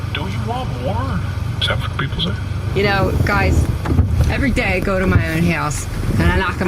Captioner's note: quietly